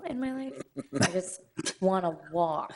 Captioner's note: people chuckling